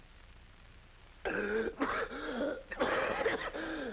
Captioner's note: gasping deeply; coughing dryly